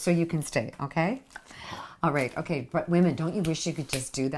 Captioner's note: snap